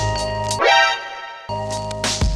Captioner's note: alerted sound